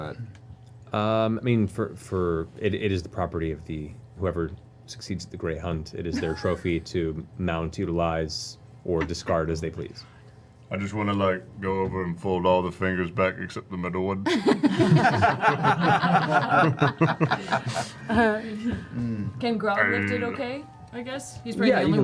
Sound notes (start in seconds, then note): 14.2 laughter